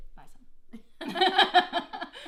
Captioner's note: laughter